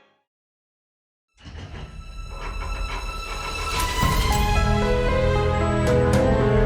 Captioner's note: air whooshing; gears rattling